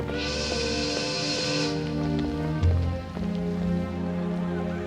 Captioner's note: steam whistle blows